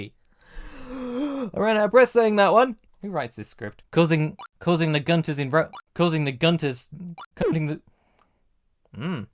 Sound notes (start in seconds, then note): 0.4 deep breath in; 4.3 blip; 5.7 blip; 7.1 blip